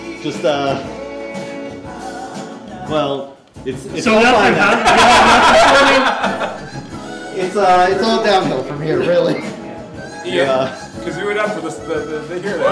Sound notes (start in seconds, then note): 4.5 laughter